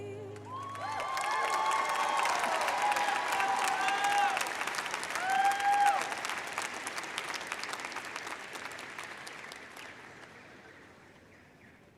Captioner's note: audience cheers and applauds